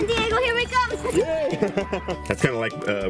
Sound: laughs

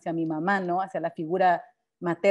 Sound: speaking Spanish

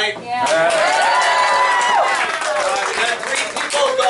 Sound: enthusiastic applause

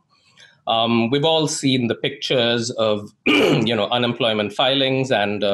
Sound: clears throat

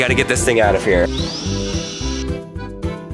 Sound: tool whirring; polka music

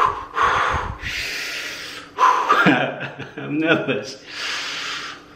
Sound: deep breaths

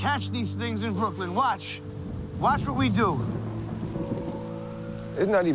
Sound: thunder rumbles

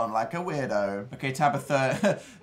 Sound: laughs

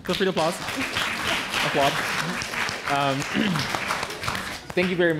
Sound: applause

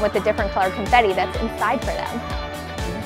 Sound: none

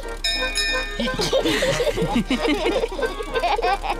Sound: bell rings; all laugh

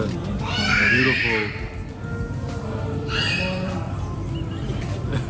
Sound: kid screams in the background

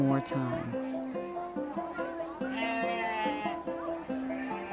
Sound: bleating

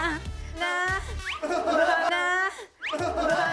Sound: kick

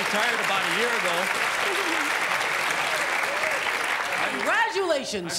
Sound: applause

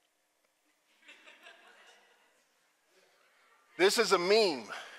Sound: participants laughing

